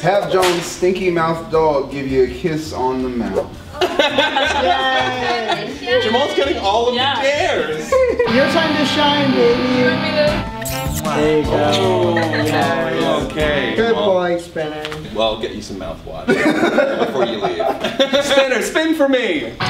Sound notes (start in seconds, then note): 3.8 laughs; 8.2 electric guitar; 16.3 laughs